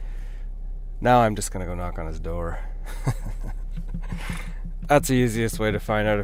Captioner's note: laughs